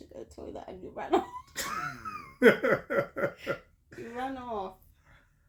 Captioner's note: laughter